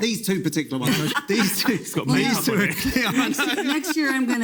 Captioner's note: people laughing